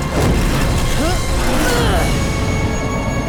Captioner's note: grunting